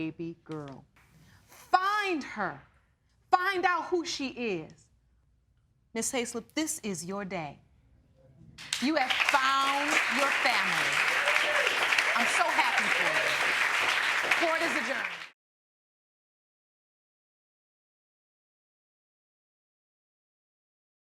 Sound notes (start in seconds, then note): 8.6 audience applauding